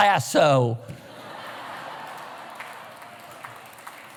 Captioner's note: laughter